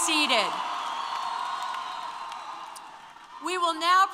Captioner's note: applause & Cheers